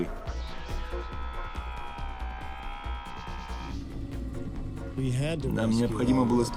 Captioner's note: whirring